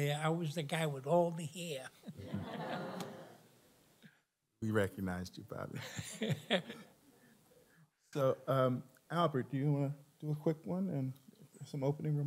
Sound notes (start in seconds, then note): 2.0 laughter; 5.8 laughs